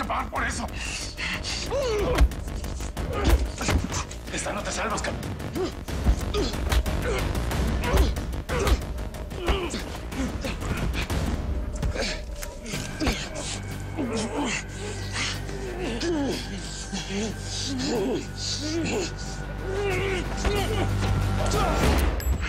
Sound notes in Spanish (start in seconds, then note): 2.1 Golpes; 15.4 Ruidos del forcejeo; 22.3 Disparo